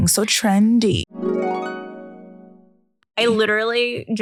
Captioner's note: soft chiming